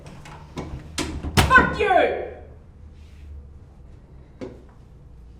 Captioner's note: banging on door